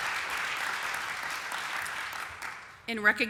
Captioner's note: applause